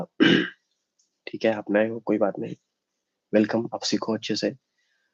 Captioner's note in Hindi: गला साफ़ करने की आवाज़